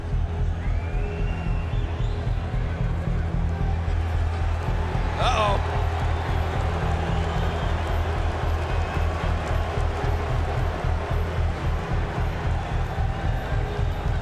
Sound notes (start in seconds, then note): 0.0 dramatic music; 4.8 crowd cheering; 10.3 crowd exclaiming